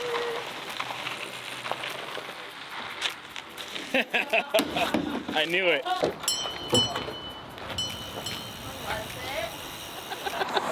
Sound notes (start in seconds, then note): 3.9 laughing; 6.2 bell ringing